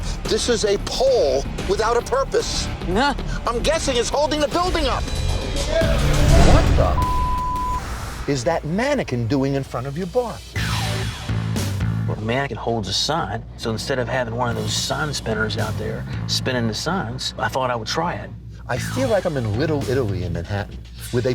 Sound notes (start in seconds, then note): 5.3 dramatic music; 6.2 beep; 10.6 dramatic music